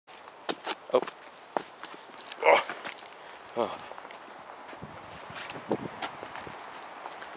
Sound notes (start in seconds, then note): 2.3 groan of great struggle; 3.5 sigh of relief